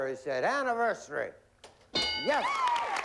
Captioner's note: applause